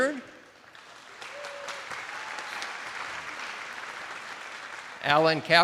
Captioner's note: attendees applauding